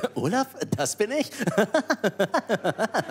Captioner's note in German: Er lacht